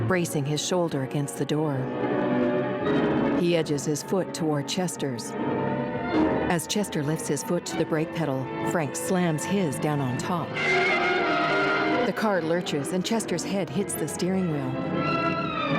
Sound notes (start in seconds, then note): 10.6 tires squealing; 12.2 dramatic orchestral music